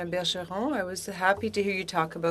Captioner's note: speaking in French